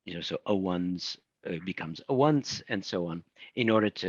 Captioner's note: speaking in foreign language